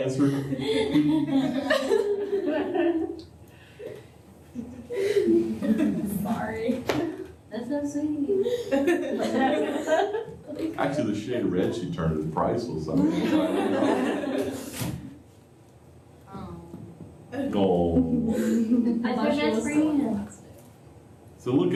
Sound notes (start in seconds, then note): 6.8 laughter; 17.9 laughter